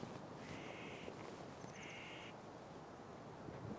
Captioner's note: bird squawks